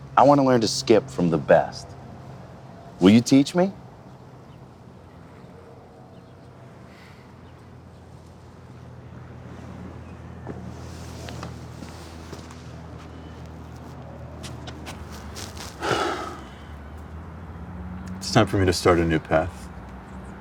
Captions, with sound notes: I wanna learn to skip from the best. Will you teach me? (scuffling noise) (man sighs) - It's time for me to start a new path.